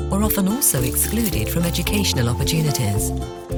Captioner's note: chains rattling